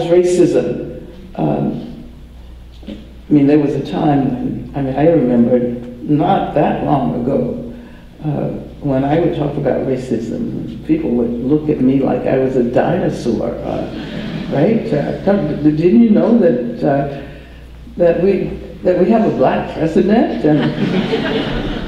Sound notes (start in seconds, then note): 13.8 audience laughter